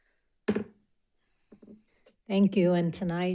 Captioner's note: gavel clacks